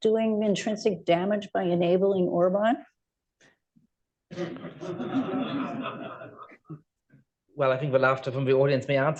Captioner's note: laughter